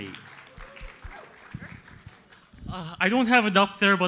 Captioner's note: audience applauds